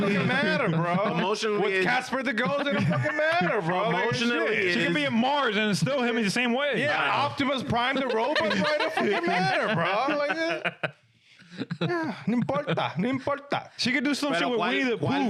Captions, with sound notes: Emotionally. Emotionally. With Casper, the girls, it don't fucking matter, bro. Emotionally. She can be a Mars, and it's still him in the same way. Yeah, Optimus Prime, the rope. (Laughing) It don't fucking matter, bro. (Laughing) Nimporta, nimporta. She can do some shit with me that poo.